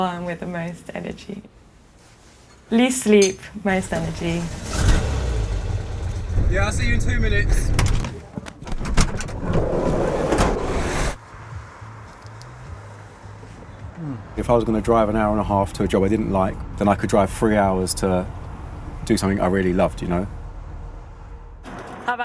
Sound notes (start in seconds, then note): 3.8 engine starts; 8.5 door opens; 9.0 traffic whirring